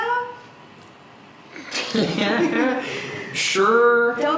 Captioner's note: laughs